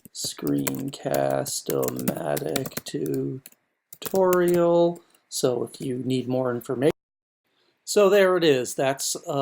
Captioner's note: typing